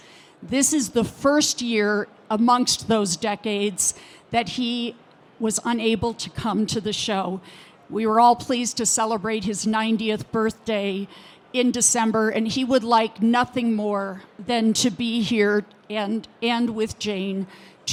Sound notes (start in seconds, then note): none